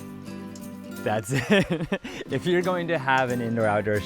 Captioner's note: laughs